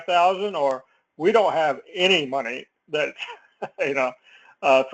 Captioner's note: laugh